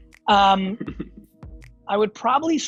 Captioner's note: laughs